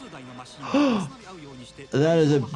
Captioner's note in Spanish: el comentarista habla en idioma extranjero; El doctor de urgencias jadea